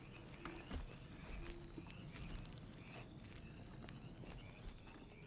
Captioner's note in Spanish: ranas croando